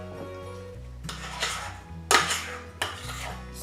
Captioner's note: spoon scraping bowl